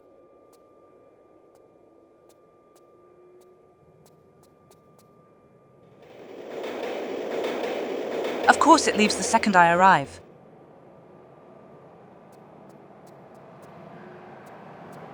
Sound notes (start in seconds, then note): 6.2 train sound ♫